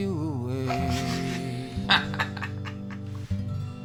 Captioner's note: laughing